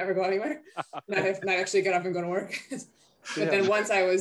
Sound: laughs

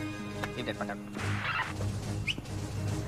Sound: radio static

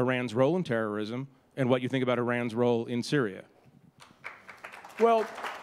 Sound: applause

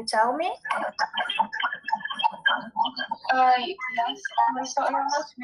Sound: audio disturbance

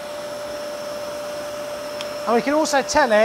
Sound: wet vac roars

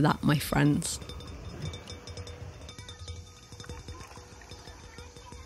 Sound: dinging continues; chatter in background

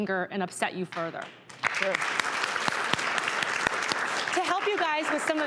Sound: applause

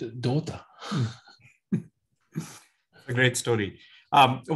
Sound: both chuckle

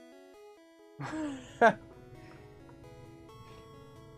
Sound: chuckles

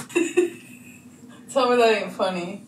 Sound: laughing

